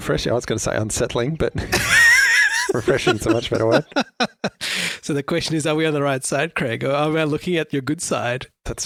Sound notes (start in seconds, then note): 1.7 laughs